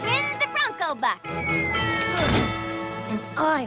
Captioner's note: bell dings